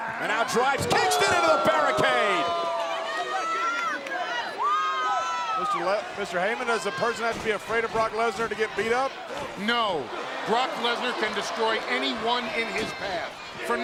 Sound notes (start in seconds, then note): 2.6 crowd shouts out randomly; 2.6 crowd whoops